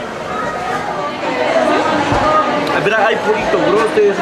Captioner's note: in Spanish